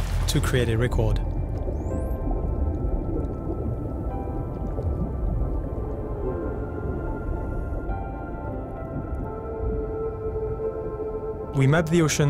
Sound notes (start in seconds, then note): 9.1 whale song